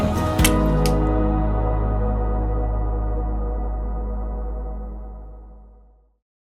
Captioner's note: dramatic musical tone; smooch